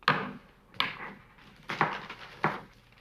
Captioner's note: rustling paper